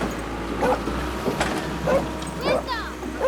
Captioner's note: dog barking